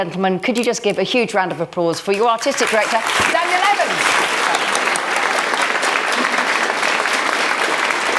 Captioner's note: applause